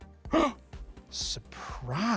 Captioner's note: gasps